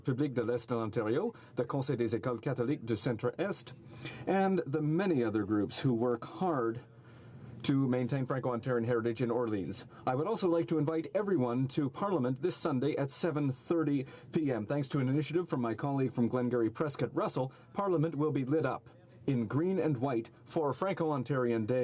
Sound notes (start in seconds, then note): 7.3 speaking French